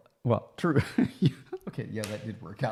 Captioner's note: laughs